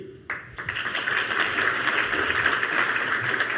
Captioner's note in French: Applaudissements